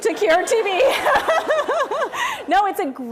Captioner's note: laughter